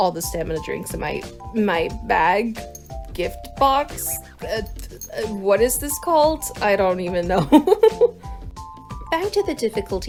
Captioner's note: laughs at myself